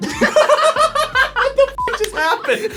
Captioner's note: both laugh; beep